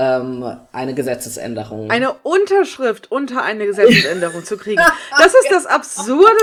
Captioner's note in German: lacht